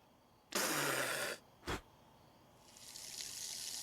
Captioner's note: Michael spits